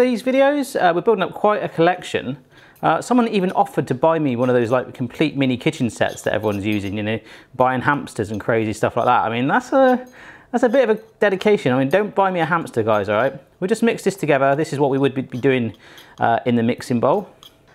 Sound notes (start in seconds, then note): none